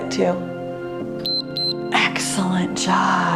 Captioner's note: timer beeps